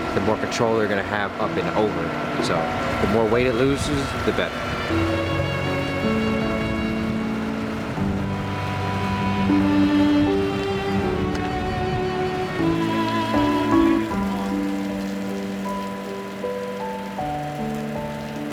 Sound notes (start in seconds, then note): 5.5 gentle music; 14.6 water trickling